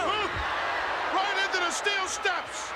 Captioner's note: audience cheers